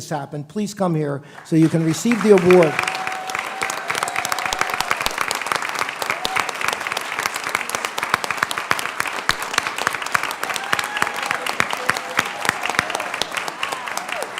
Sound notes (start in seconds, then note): 1.3 applause